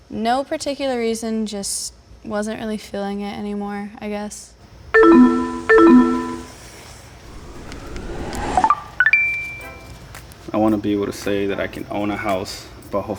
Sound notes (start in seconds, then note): 5.0 chimes; 9.0 chime